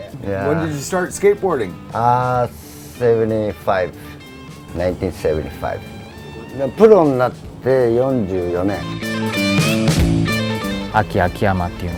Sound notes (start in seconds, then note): 6.8 speaking in foreign language